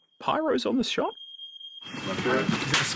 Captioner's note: alarm beeping